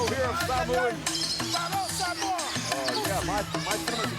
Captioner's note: Fatu speaks foreign language